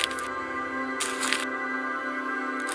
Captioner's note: rustling sound